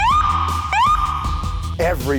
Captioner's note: siren